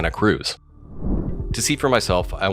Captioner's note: air whooshes